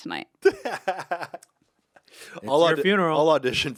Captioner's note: Anthony laughs